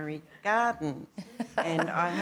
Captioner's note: laughter